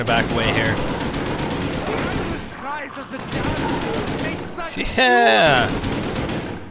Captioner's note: gunfire sounds